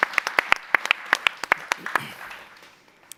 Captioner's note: applause